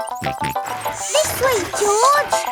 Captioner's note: george snorts